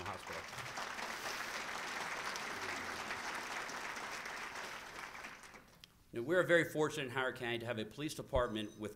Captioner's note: applause